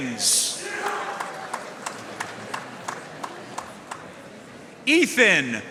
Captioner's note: audience cheering and applauding